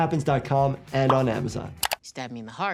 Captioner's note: mouse clicking